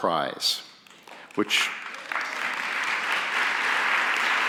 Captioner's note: audience applauds